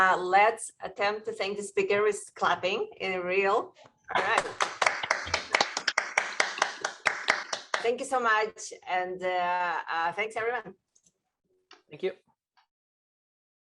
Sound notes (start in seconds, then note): 4.2 applause